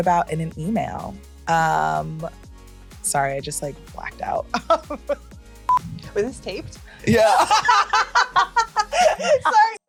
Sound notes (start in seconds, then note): 4.5 laughs; 7.1 everyone laughs